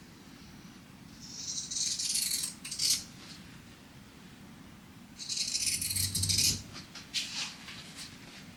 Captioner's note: scissors snipping